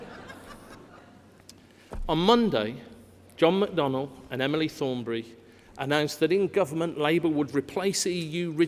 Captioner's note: laughter